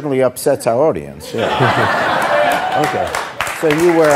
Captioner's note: audience laughing